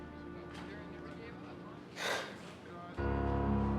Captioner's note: gasps